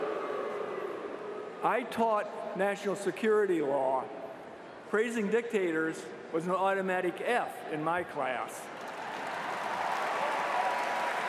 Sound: cheers & applause

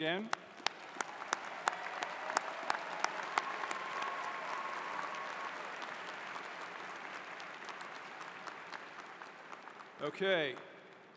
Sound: cheers and Applause

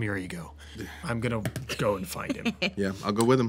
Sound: laughter

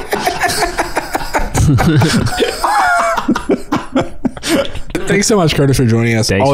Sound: all laughing

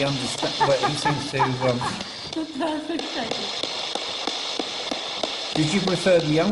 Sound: laughing

